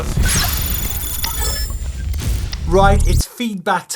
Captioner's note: electronic dinging